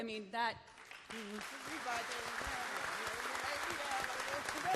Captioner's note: applause